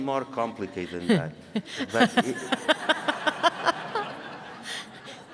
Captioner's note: audience laughing